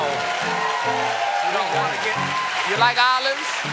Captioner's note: cheers and applause